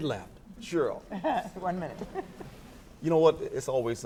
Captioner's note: laughs